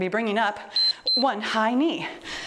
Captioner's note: timer beeps